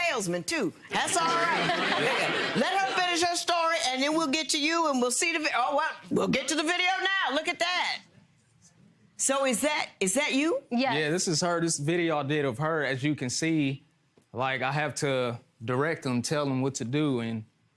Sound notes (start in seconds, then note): 0.9 audience laughs